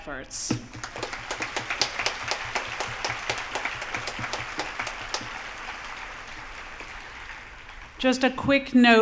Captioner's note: applause